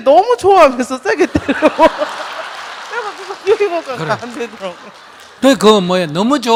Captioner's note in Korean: 질문자와 청중 웃음